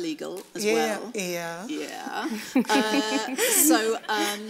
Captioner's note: laughs